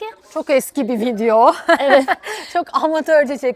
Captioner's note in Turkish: kahkaha